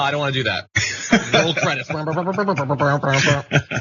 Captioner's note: laugh